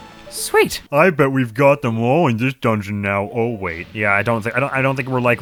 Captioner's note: goofy voice